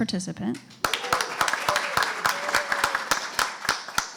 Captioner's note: applause